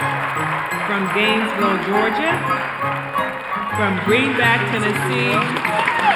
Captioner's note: applause